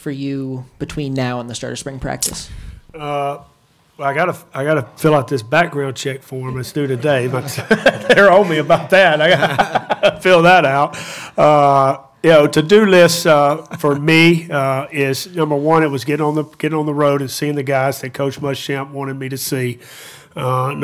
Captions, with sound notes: for you between now and the start of spring practice? - I got to fill out this background check for him. It's due today, but. (chuckles) They're on me about that. (laughs) I got to fill that out. To do list for me, is number one, is getting on the road and seeing the guys that Coach Muschamp wanted me to see.